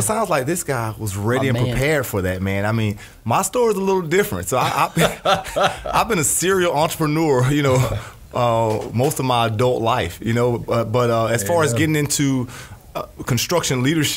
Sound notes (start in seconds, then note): 4.6 laugh